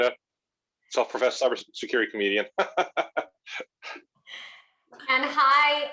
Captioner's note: laughing